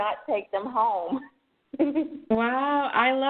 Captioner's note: chuckles